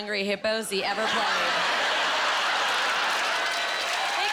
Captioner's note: laughing